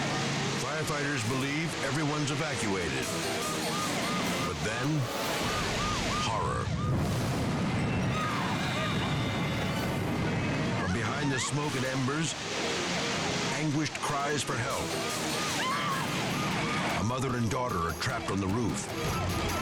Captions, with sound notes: Firefighters believe everyone's evacuated, but then, horror. (mother screaming) From behind the smoke and embers, anguished cries for help. A mother and daughter are trapped on the roof,